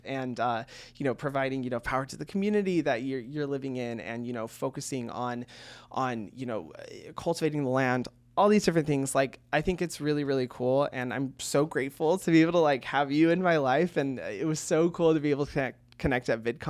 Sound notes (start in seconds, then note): none